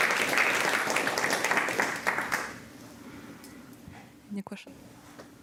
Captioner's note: applause